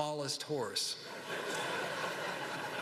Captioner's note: laughter